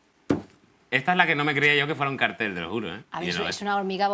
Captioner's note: none